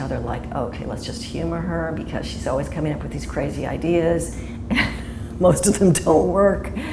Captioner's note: chuckle